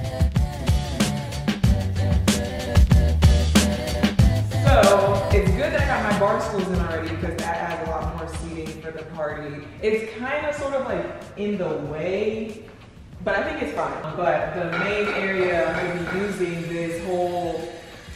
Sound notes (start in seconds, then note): 0.2 upbeat music; 14.5 loud banging